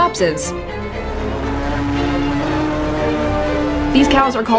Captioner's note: корова мичить